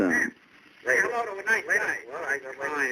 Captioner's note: background chatter